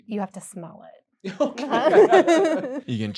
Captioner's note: laughter